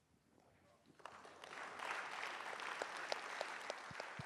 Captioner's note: applause